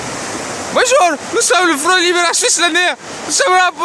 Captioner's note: arab accent